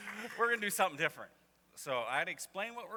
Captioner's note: laughter continues; laughter; applause